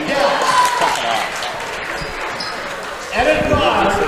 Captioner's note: cheering